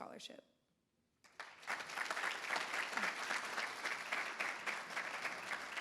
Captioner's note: everybody applauds